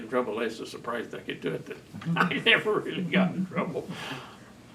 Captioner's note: laughs